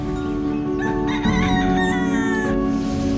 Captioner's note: bright instrumental music; rooster crowing; helicopter whirring